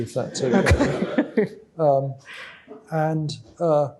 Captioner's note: laughter